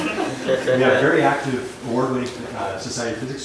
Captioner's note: laughter